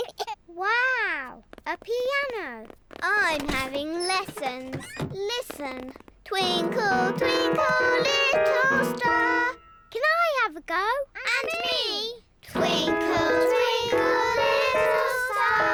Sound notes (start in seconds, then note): 6.4 clunks discordantly